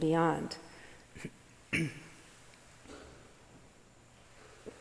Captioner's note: clearing throat